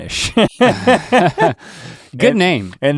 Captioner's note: laughing